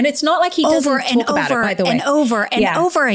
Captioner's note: overlapping chatter